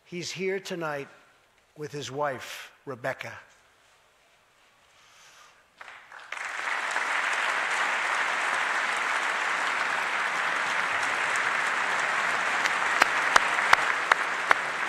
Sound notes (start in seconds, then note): 7.3 applause